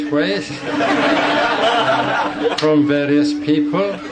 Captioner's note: audience laughing